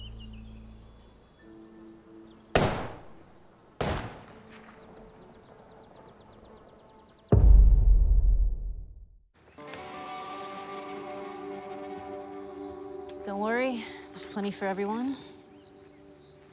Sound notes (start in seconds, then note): 2.5 gunshots